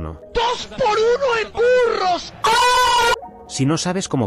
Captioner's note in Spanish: gemido